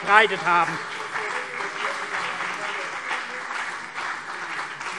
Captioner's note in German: Beifall CDU und BÜNDNIS 90/DIE GRÜNEN